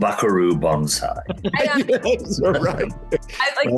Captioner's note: all laughing